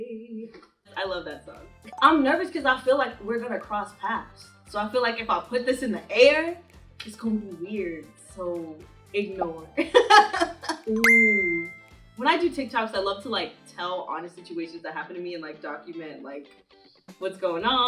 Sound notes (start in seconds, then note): 1.9 notification chiming; 9.9 Dara laughing; 11.0 notification chiming